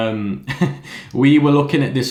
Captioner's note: laughs